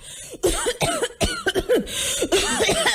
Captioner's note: coughing